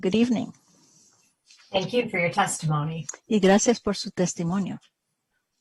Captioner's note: speaking spanish